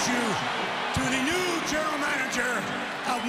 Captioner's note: crowd cheering